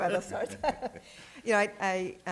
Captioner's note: laughter